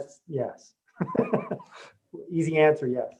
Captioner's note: laughs